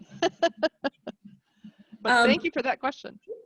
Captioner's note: laughing